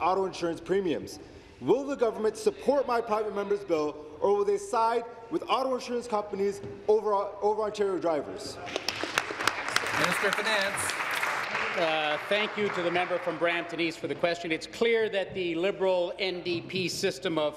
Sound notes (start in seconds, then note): 11.8 applause